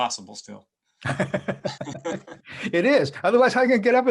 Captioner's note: both laughing